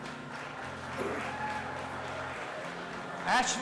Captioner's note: audience applauding and cheering